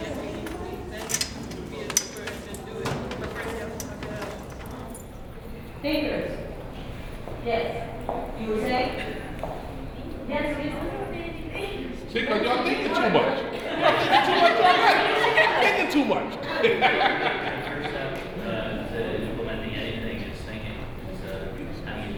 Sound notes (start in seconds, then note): 16.4 students laugh; 18.2 laughs